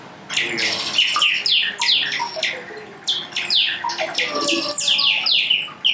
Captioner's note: synthesized bird noises